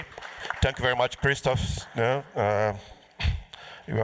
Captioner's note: applause